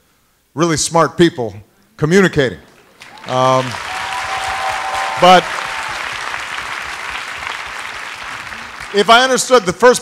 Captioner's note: applause